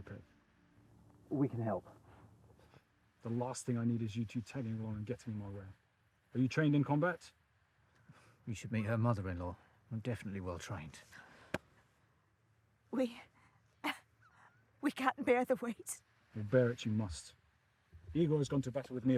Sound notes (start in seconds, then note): 11.5 hand tapping